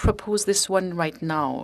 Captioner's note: speaking in French